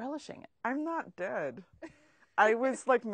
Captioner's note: laughs